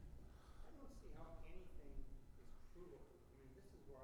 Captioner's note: faintly speaks